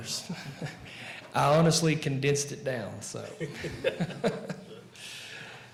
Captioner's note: laughing